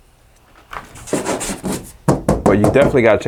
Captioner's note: scratching; knocking